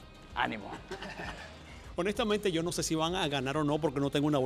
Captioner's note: laugh